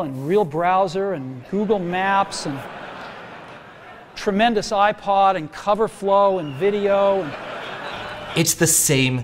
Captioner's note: audience laughter